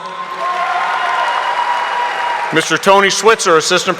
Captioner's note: audience applauding